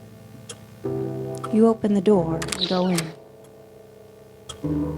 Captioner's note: door squeak